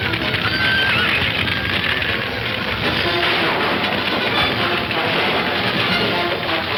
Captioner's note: horse whinnying; dramatic music; fire crackling